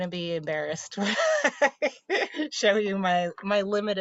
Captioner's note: laughing